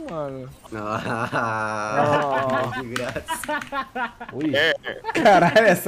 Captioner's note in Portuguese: risos